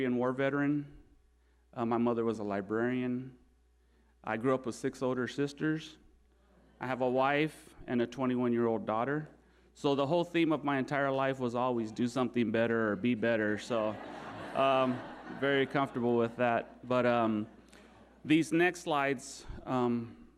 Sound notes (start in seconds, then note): 13.3 audience laughing